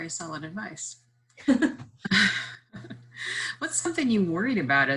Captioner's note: laughs